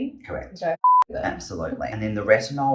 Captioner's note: beep